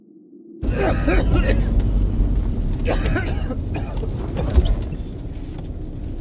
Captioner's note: eerie silence; André coughing